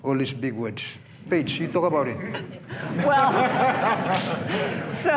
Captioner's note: laughter